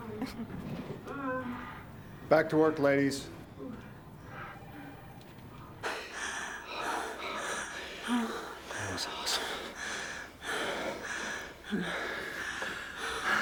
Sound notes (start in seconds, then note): 1.0 Becky continues moaning loudly; 3.3 heavy panting in the distance; 5.8 both panting heavily; 5.9 Becky sighs loudly; 10.6 Becky pants heavily and softly moans